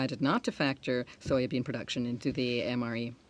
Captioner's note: speaking in French